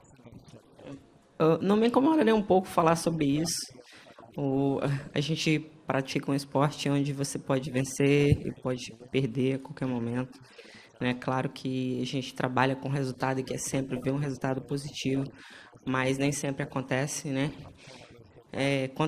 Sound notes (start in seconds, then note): 6.0 speaking foreign language